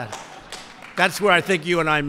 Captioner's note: laughter